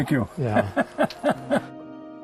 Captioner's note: laughing